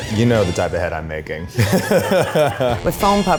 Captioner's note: laughs